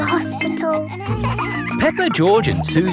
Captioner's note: kids laughing